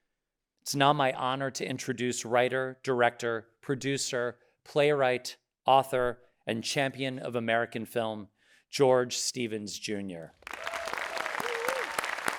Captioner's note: audience cheering